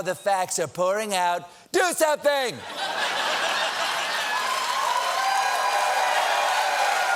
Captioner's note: laughter; cheers and applause